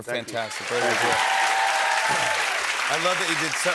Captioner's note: cheers and applause